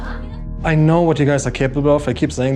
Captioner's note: in English